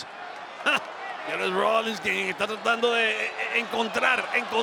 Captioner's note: laugh